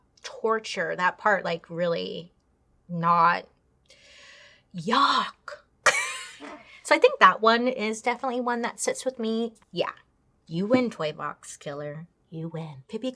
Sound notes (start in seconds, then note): 5.2 laughs